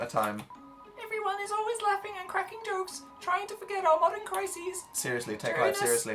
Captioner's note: tiny, squeaky voice